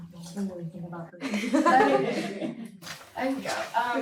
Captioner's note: audience chuckles